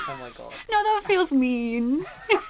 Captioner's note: gasps